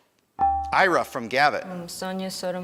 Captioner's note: buzzer dinging